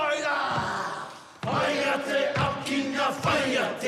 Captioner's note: all chant haka